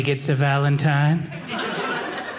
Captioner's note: audience laughing